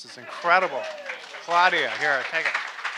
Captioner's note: audience applauding